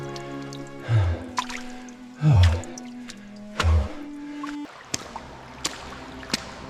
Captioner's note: water splashing